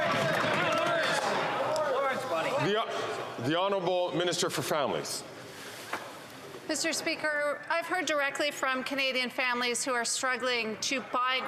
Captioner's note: some Applause